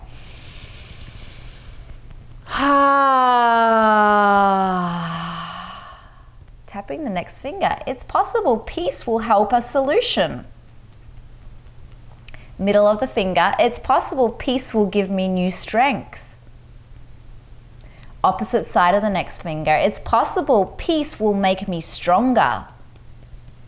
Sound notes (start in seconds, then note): 0.0 inhales deeply; 2.6 exhales deeply